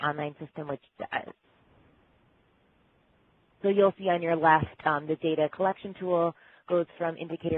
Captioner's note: pause